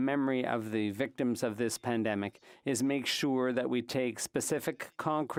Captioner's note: speaking French